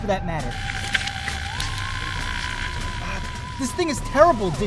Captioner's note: radio buzzing